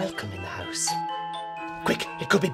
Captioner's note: doorbell